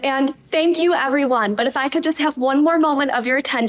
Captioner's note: none